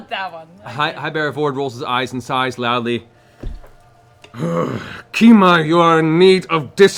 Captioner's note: growls